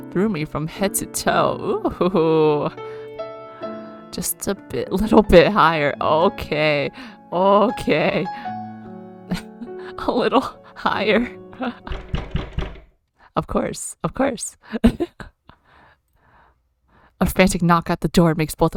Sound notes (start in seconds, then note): 11.8 knocking; 14.8 laughs